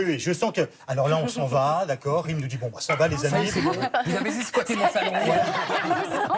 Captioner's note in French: rires